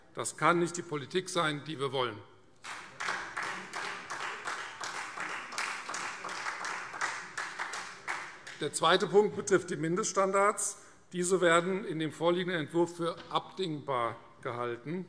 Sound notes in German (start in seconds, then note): 2.6 Beifall Freie Demokraten und vereinzelt SPD